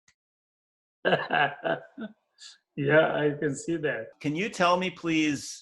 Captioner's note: laughs